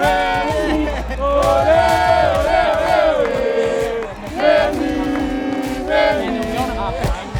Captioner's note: chanting